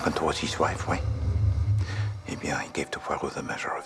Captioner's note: Menghembuskan napas berat